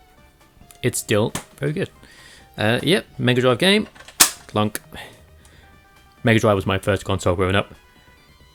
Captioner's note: clunk